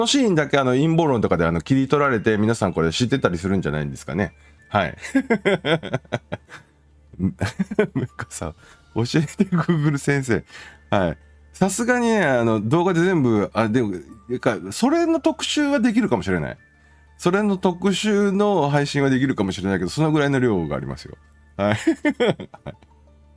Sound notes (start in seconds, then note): 8.4 laughs